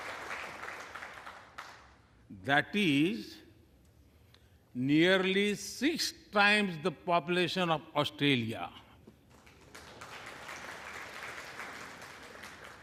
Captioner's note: applause